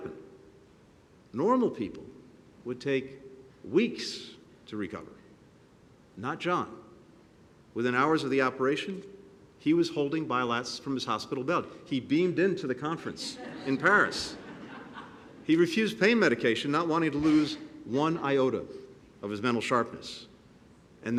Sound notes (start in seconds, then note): 13.2 laughter